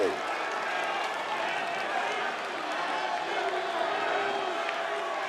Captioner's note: audience cheering